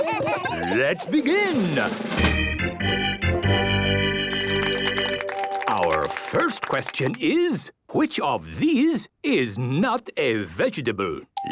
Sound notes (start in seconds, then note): 1.6 gameshow music; 2.0 clapping